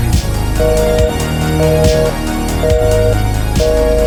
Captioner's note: phone beeps